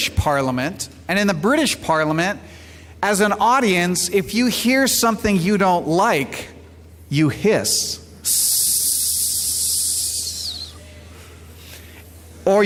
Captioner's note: sssssssssss